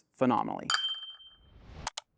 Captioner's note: bell dings